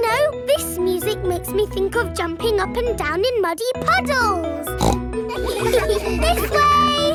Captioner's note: snorts; giggles